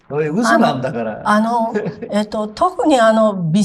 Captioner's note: laughs